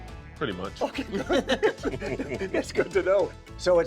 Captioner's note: all laughing